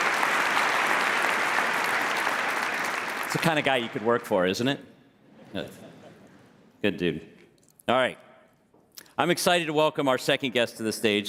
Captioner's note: applause